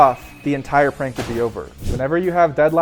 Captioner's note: effect crashes